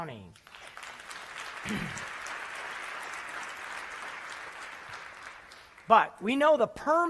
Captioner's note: applause